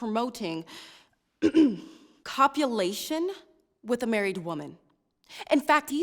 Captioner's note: clears throat